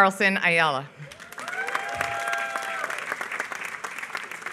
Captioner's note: applause